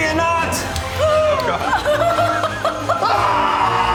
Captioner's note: laughing; primal screaming